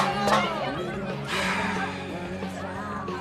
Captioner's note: slGHS